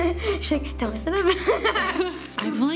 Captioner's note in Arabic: يضحك